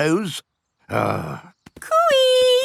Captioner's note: grumbles